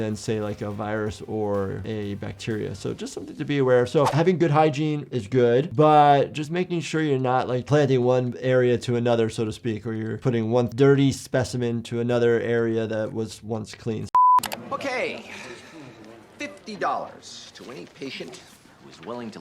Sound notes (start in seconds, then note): 14.1 alarm beeping; 14.2 mouse clicking